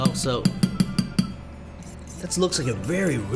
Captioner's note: tapping spoon on pot